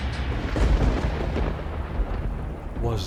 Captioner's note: thunder crashing